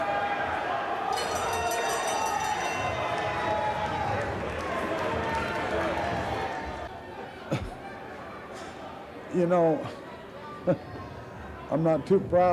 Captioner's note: crowd cheering